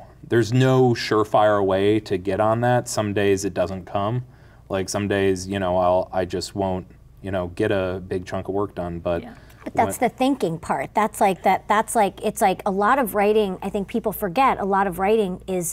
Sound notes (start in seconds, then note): none